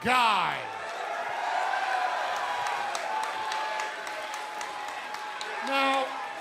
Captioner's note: crowd cheering